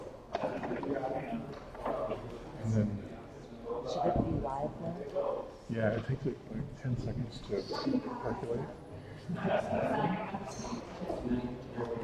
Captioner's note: chatter